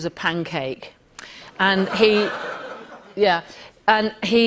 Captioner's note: laughter